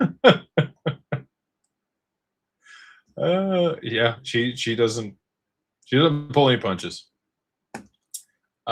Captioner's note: laughter